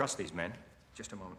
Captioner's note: footsteps